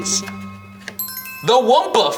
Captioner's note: bells chime